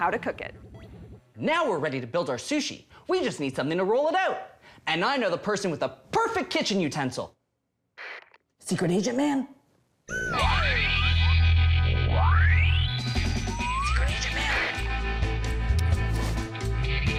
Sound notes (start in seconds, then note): 9.3 whispers